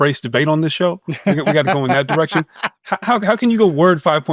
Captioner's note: laughs